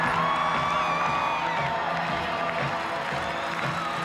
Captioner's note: crowd cheering; cheers and applause